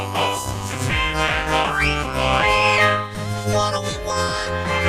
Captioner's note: wolf whistle